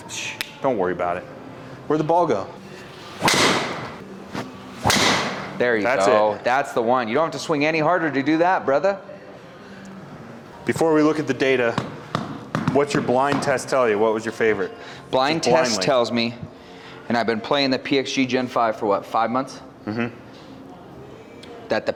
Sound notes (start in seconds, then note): 2.7 club swishing and clicking; 2.7 impact of ball thudding